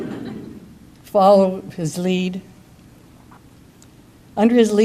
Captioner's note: audience chuckles